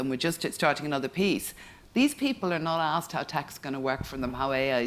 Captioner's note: none